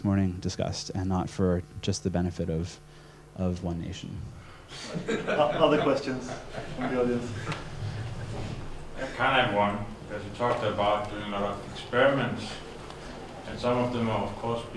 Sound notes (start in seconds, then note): 4.1 laughs; 6.0 voiceover; 9.3 voiceover